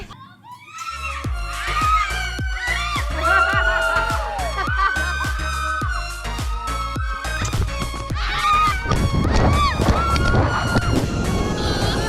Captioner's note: scream